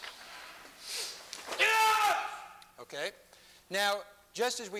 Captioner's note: yells